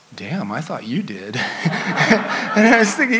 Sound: audience laughs

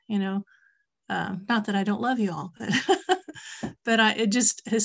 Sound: laughs

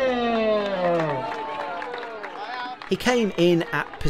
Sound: audience clapping

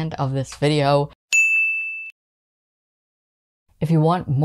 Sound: ding

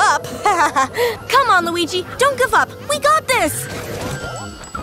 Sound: laughing

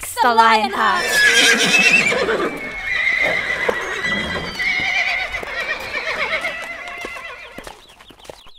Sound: neighing

